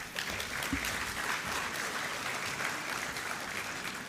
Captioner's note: applause